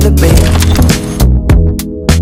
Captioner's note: camera shutter clicks